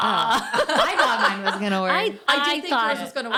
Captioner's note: laughing